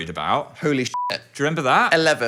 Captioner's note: beep